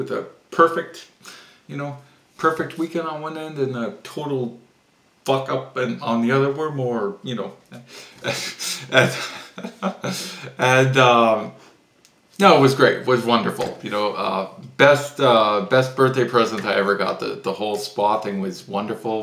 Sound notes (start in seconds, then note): 7.7 laughs